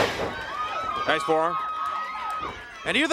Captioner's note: crowd cheering